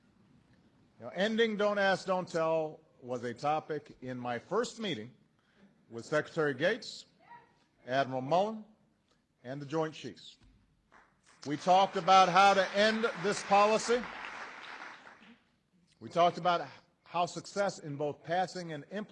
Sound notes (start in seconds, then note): 10.9 applause